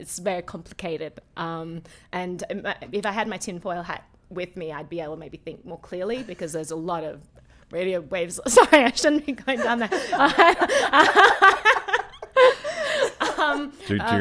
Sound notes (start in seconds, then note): 6.4 laughs; 9.5 laughs; 13.0 laughing